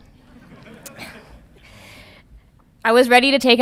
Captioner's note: audience laughing